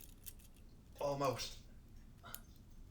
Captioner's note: metals cling